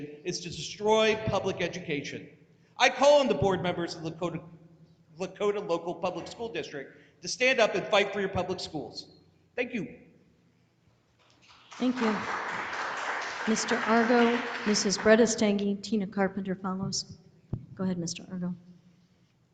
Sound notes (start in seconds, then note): 13.9 audience applauding